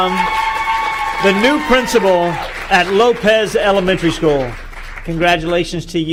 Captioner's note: cheering